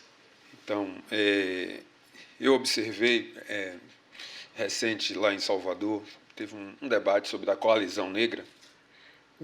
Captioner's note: speaking portuguese